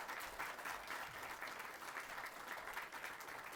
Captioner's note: applause